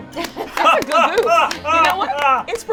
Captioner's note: laughter and applause